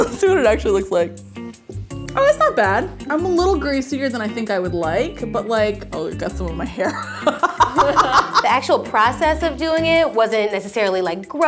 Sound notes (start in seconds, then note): 7.1 laughs